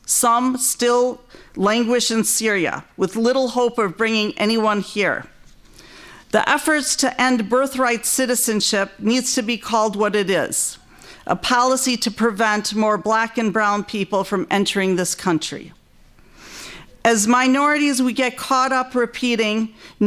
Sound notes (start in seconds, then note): none